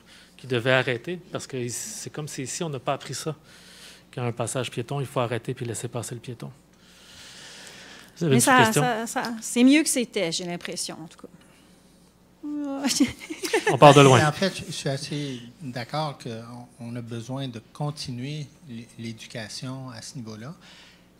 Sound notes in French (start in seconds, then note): 16.5 rires